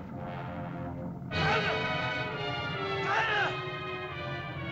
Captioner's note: dramatic music; Akhoba shouts; dramatic music